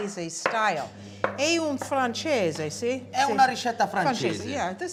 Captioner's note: speaking italian